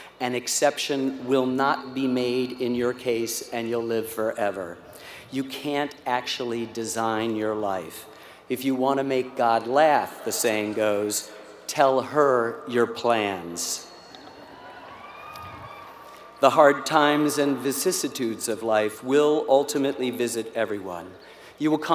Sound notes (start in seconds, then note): 13.8 applause; 13.8 laugh